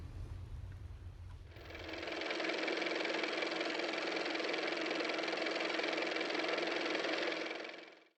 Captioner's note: car motor